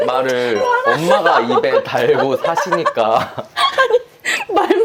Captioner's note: both of them are dying of laughter watching something